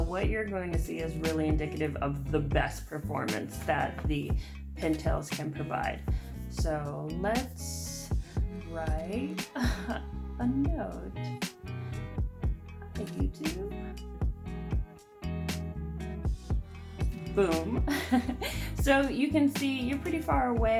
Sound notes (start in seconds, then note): 12.2 laughs